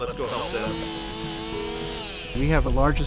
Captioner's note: whirring chainsaw